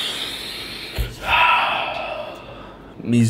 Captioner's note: deep exhale; deep inhale